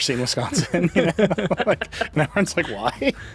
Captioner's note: group chuckling